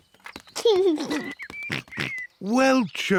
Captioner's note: giggles